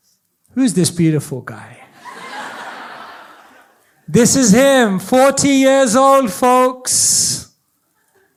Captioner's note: audience laughs